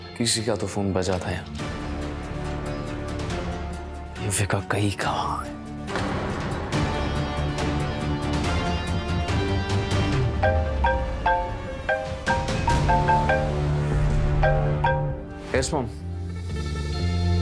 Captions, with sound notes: Someone's phone rang here. Where did Yuvika go? (phone rings) Yes, mom.